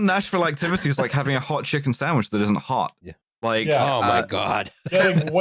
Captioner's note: laughs